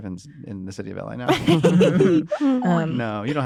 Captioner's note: laughter